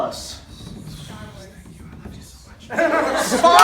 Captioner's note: whispered